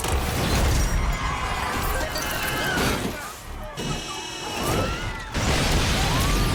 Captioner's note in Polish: titanie ôd aut i wrzask ôd ludzi